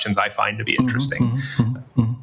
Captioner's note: chuckles